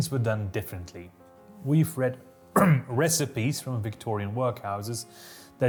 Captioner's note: ahem